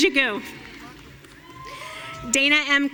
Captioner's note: audience cheering